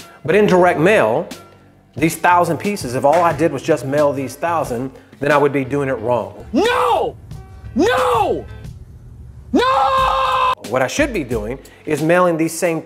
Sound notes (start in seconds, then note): 6.8 yelling